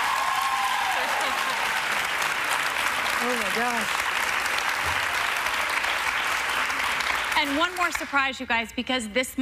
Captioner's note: applause